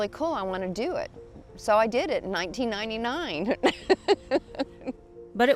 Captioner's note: laughing